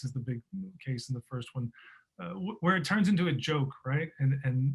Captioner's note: none